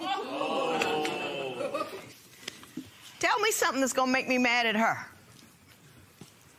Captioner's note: spectators murmur